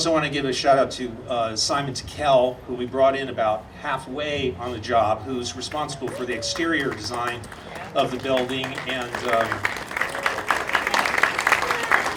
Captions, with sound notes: I want to give a shout out to Simon Tickel who we brought in about half way on the job who's responsible for the exterior design of the building [audience applauding] and was